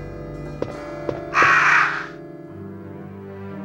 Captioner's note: crow caws